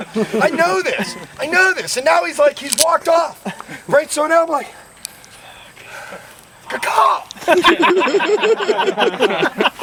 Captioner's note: cricket